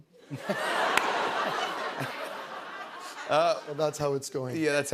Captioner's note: laughter